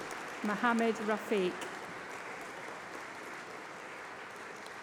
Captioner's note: applause